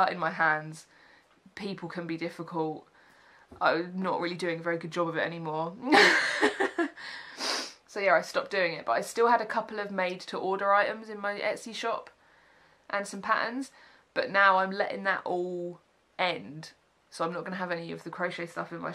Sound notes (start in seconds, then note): 6.0 laughs